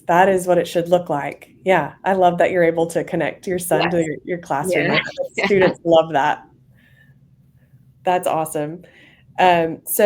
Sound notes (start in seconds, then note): 4.6 laughs